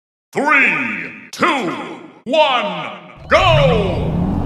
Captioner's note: deep voice